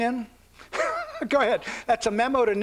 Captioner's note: laughs